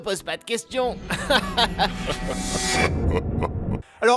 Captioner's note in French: rire progressivement diabolique